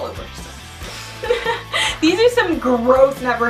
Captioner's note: laughing